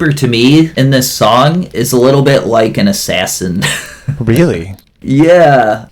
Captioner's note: laughs